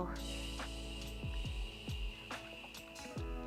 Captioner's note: exhales